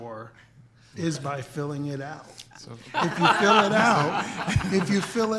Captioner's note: all laughing